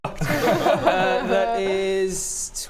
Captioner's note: defeated laughter